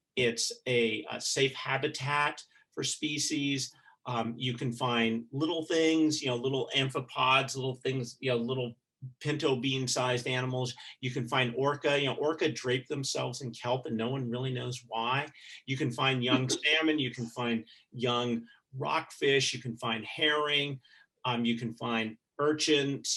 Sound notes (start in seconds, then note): 16.2 chuckling